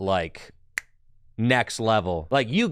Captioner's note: snaps